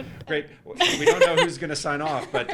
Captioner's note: laughing